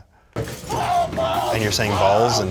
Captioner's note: screaming balls